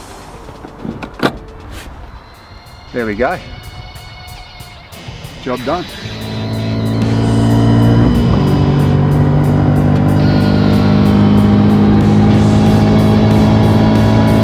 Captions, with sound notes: There we go. Job done. (sports car engine revving) (thrilling rock music)